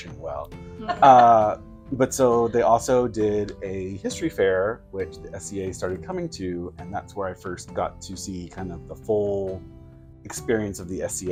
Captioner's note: giggles and affirmative hums